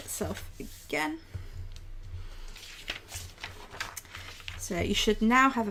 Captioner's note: paper rustling